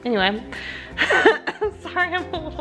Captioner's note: laughs